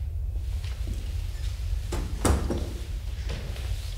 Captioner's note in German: Tür öffnet und schließt sich